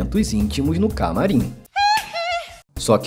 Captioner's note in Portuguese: Hee-hee